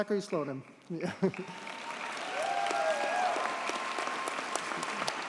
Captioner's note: audience cheers and applauds